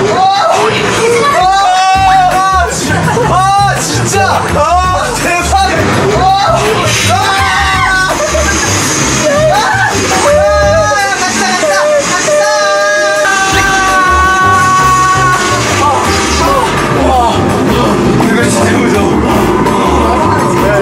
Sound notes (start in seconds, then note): 7.1 scream